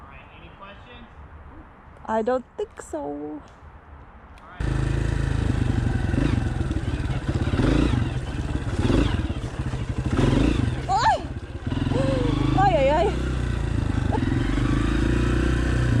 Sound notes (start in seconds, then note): 5.4 bike engines running; 11.9 gasping